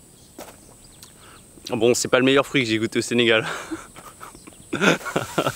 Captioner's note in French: rires